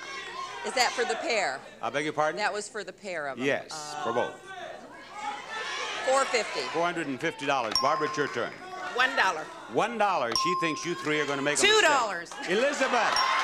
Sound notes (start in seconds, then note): 5.0 audience shout indistinctly; 7.7 bell dings